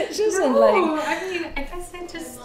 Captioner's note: laughs